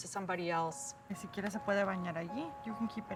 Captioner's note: speaking spanish